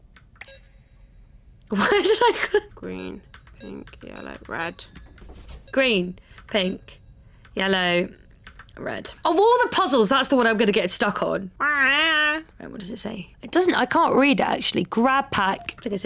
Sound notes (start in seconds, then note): 1.8 laughs; 2.9 multiple beeps; 5.0 door unlocked sound; 5.7 multiple beeps